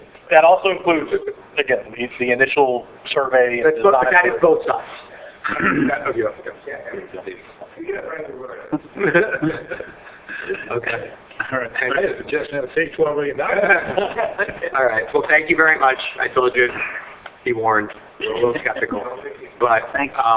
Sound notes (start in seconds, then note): 13.4 laughs